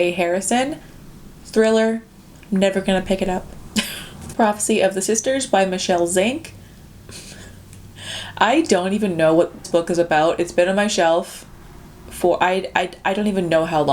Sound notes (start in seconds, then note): 7.5 laughs